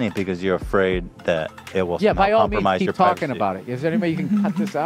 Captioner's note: sarcastically